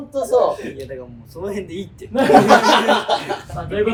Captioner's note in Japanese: 笑い声